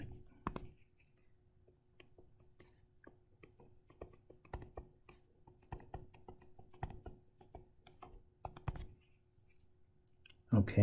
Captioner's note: tapping Sounds